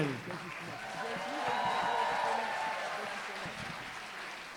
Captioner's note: applause, cheering